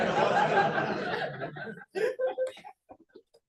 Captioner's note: laughter